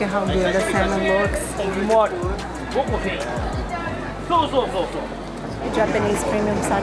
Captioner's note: in Japanese language